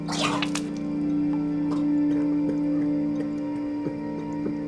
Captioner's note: vomits